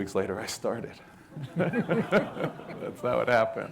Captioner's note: audience laughing